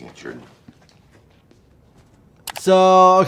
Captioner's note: footsteps shuffling; clothes rustling; mouse clicking